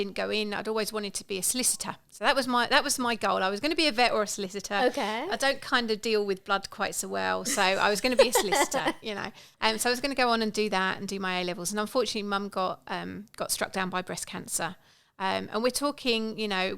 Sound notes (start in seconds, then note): 7.4 laughing